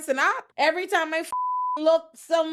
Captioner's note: beep